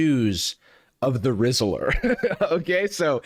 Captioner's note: laughs